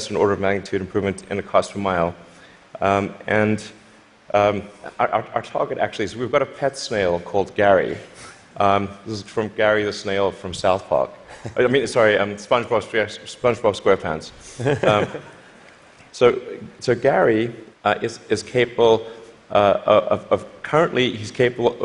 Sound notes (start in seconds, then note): 14.5 laughter